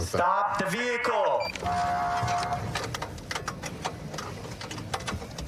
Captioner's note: horn blaring